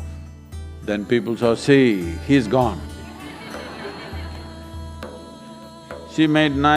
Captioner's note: laughter; 笑聲